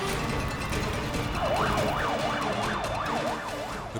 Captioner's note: firefighter speaking in foreign language; siren blaring